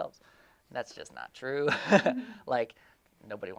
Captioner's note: laughing